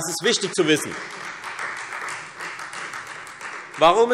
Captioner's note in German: Beifall Freie Demokraten